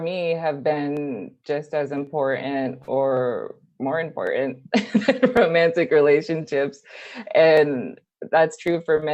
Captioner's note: laughing